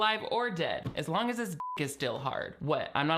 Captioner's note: beep